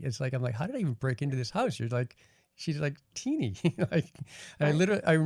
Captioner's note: laughing